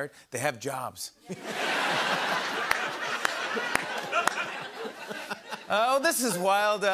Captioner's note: laughter